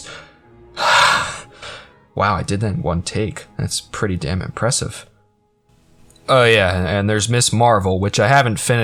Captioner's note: breathes